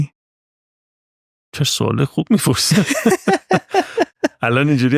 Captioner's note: laughter